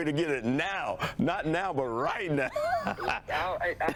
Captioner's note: laughs